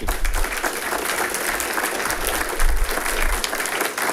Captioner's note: audience applauding